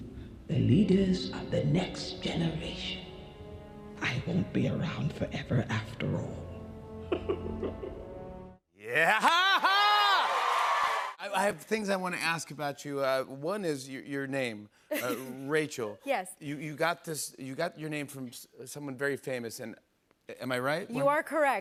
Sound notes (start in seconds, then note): 7.0 laughs; 9.5 cheers and applause